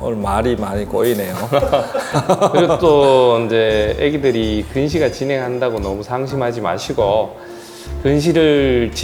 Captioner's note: laughs